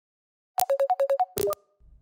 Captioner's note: incoming call